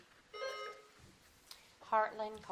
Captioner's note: buzzer dings